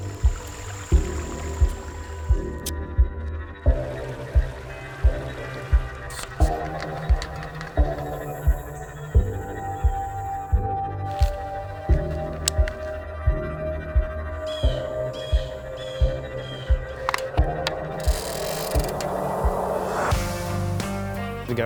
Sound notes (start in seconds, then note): 0.1 intense music; 3.6 water rushes; 14.4 birds caw; 20.0 uptempo music